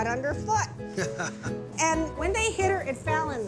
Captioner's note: chuckling